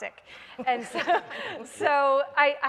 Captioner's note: panel laughs